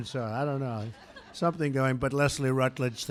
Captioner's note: laughter